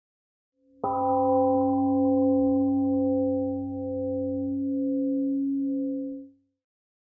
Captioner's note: temple gong rings and fades